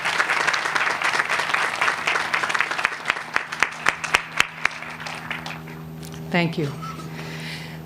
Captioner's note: applause